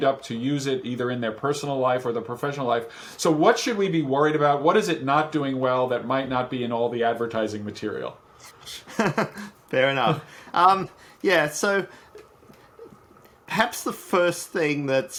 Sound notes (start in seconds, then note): 8.6 laughs